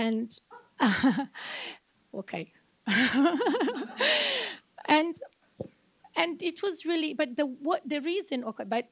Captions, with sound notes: Okay. (laughs) And it was really,